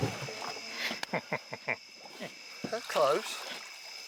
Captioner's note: laughing